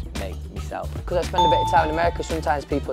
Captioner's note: bell chimes